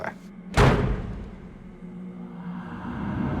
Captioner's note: door slams